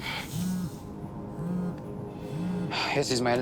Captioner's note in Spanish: Vibra el celular